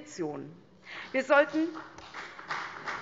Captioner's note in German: Beifall CDU